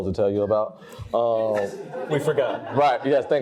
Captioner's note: audience laughs